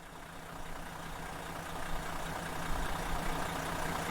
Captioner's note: engine rumbling